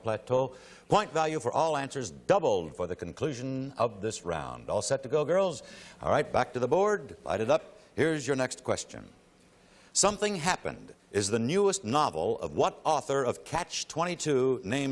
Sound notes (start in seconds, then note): none